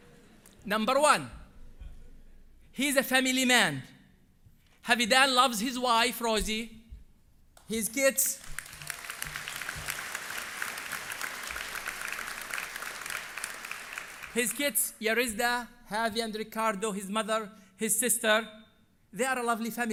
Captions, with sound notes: Number one. He's a family man. Havidan that loves his wife Rosie, his kids. [Applause] His kids Yaritza, Havi and Ricardo, his mother, his sister, they are lovely family.